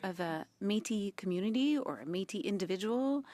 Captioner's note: speaking French